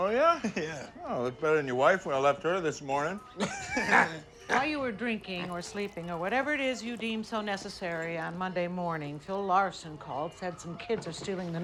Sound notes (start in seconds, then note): 3.2 deputy guffaws